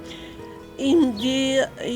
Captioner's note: speaking French